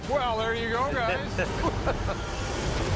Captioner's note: chuckles